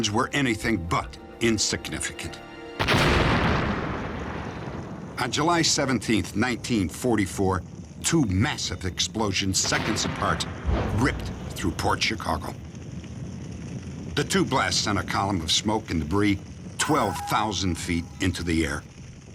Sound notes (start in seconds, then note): 2.8 explosion